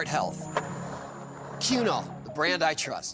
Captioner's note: skateboard wheels roaring